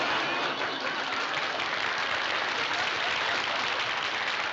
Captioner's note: audience applauding